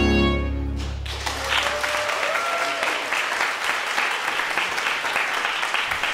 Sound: audience clapping and cheering

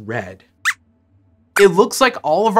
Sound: squeaks squeaks

